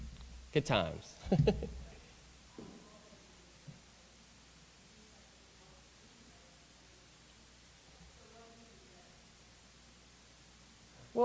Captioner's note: laughter